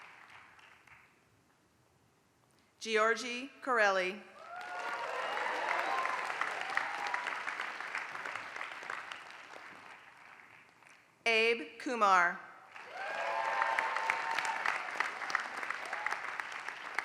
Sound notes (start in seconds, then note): 0.0 applause; 4.4 applause; 12.6 applause